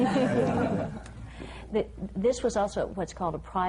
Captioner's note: laughter